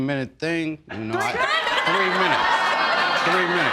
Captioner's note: audience laughing